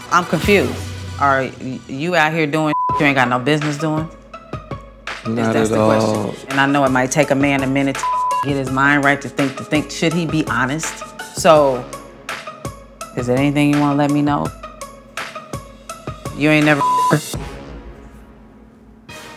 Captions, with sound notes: - I'm confused. Are you out here doing (beep) you ain't got no business doing? - Not at all. - 'Cause that's the question. And I know it might take a man a minute to (beep) get his mind right, to think, to think should he be honest? So is there anything you wanna let me know? You ain't never (beep) her?